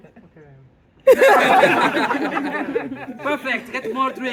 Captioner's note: laughter